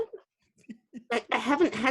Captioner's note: laughing